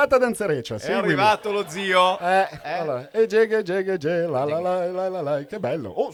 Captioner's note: Canticchiando